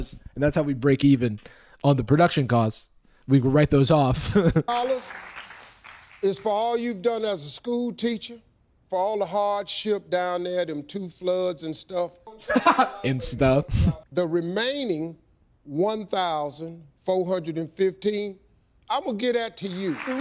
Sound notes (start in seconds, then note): 4.2 chuckles; 12.3 laughs